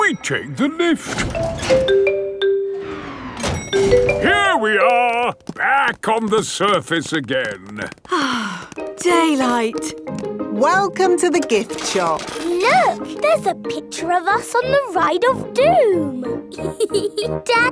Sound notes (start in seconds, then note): 1.3 elevator dings; 8.0 sighs